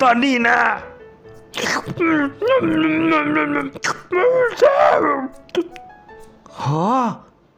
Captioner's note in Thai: สะอึกสะอื้น